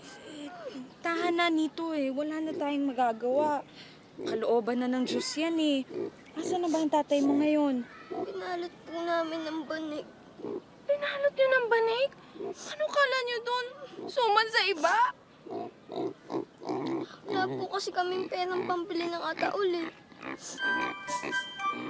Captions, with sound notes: Stop crying, Nitoy, there's nothing we can do. That's God's will. -Where is your father now? -[sniffling] We wrapped him in a mat. You wrapped him in a mat? What is he? A rice cake? We don't have money to buy a coffin.